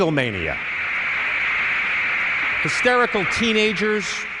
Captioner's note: recording of crowd roaring